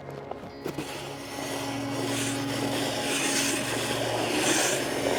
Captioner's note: snow shovel grinding